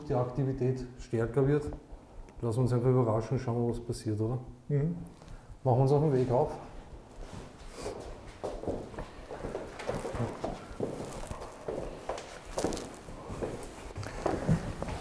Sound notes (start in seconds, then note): 6.7 footsteps